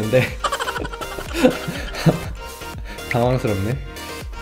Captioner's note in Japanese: 笑い声